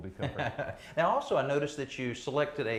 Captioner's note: laughs